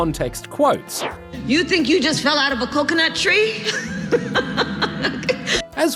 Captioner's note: laughs